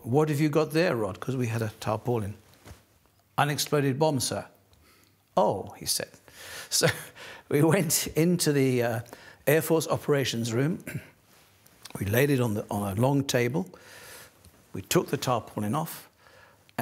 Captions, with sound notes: "What have you got there, Rod?" Because we had a tarpaulin. "Unexploded bomb, sir." "Oh," he said. [laughing] So, we went into the Air Force operations room. We laid it on a long table. We took the tarpaulin off...